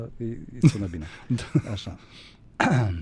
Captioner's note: laughter